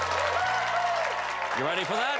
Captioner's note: cheers and applause